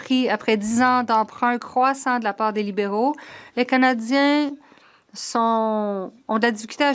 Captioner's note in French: voix de l'interprète